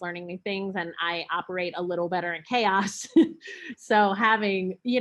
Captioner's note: chuckles